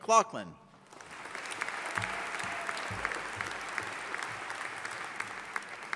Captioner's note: audience applauding